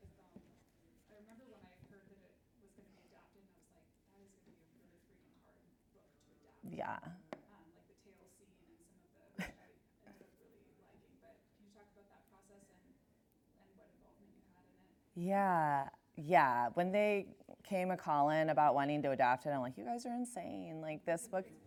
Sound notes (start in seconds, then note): 9.4 chuckles